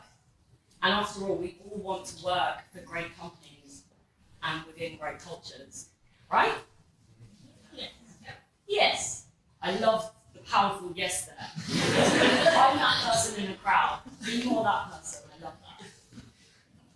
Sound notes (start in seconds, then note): 11.6 crowd